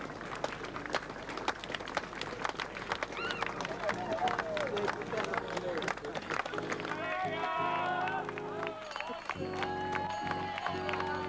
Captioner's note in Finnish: Aplodeja